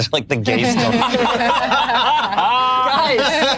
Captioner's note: group laughs